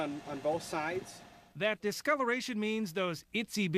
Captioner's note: voiceover